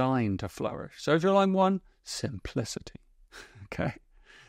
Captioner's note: chuckles